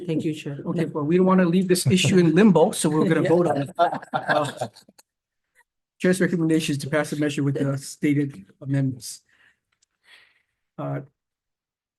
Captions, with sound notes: Thank you, chair. - Okay, well, we don't wanna leave this issue in limbo, so we're gonna vote on it. (all laughing) Chair's recommendation is to pass the measure with the stated amendments.